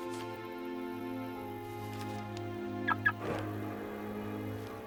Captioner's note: reflective music; car beeps; reflective music